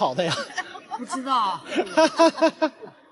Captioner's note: ha ha ha ha